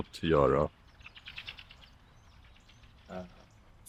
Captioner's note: A bird chirps